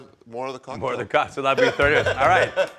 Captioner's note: laughing